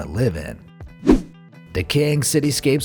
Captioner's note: air whooshing